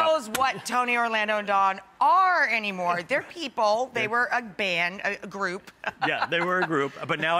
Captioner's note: laughs